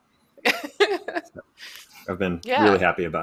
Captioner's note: laughs